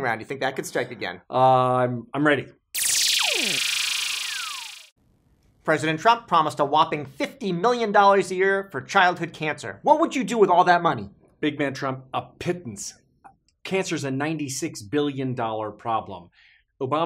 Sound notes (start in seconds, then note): 2.7 electronic buzzing